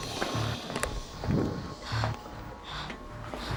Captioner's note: breathing heavily